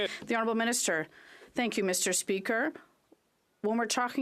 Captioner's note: some Applause